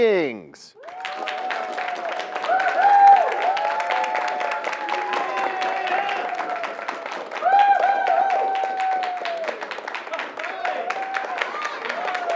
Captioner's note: cheers and applause